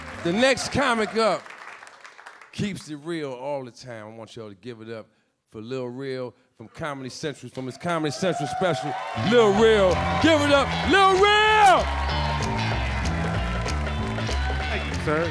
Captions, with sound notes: - The next comic up keeps it real all the time. I want y'all to give it up for LilRel from Comedy Central, for this Comedy Central special. (audience cheering) LilRel. Give it. LilRel! (upbeat jazz music)